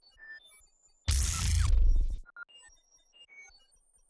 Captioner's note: drones chattering